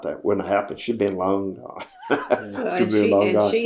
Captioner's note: laughs